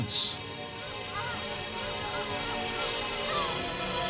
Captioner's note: squawking